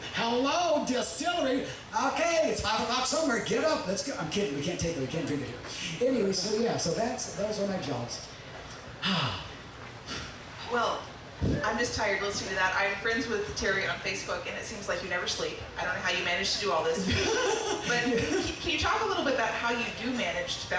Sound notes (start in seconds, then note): 9.0 deeply sighing